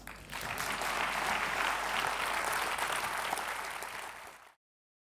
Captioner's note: applause